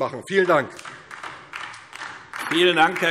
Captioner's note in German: Beifall DIE LINKE